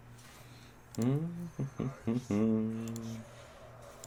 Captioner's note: humming